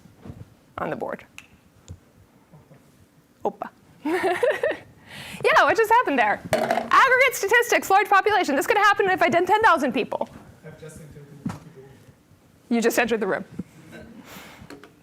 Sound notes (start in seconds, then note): 4.1 laughing